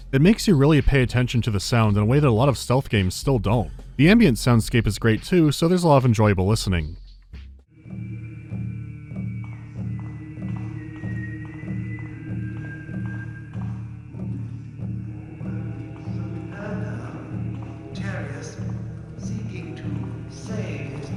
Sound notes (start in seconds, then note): 7.3 ambient humming and drumming; 7.3 quiet whistling gives away the guard's position; 13.8 ambient humming and drumming